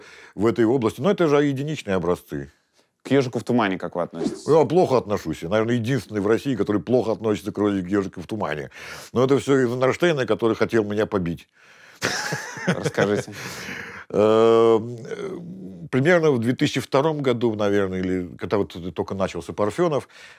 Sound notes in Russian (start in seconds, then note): 12.1 смеется